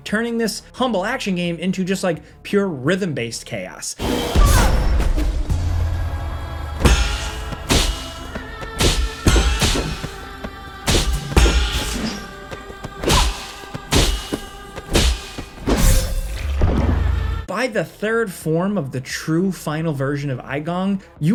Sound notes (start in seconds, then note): 4.8 character groaning; 4.8 tense music; 6.8 swords clashing